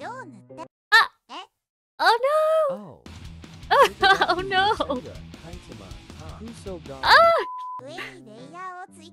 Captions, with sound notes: Oh noooo *laughs* Oh nooo